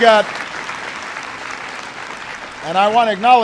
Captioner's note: applause